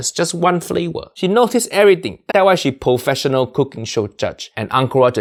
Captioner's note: none